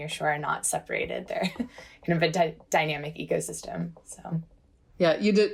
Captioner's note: laughter